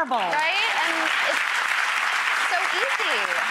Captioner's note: audience applause